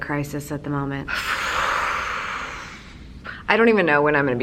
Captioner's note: huffs